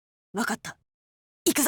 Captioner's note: whisper